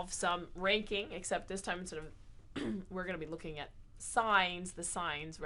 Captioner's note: cough